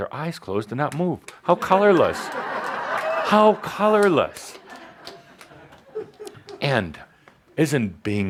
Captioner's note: laughter